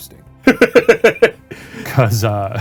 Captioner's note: laughing